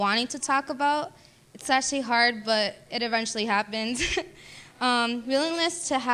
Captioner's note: laughing